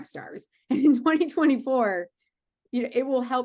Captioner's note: chuckling